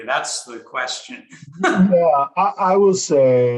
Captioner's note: chuckles